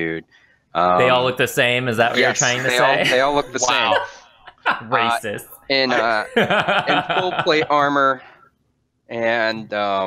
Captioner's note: haha